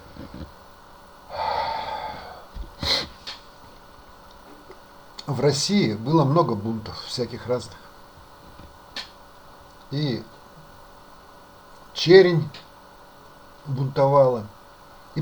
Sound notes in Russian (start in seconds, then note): 1.3 вздыхает; 2.8 фыркает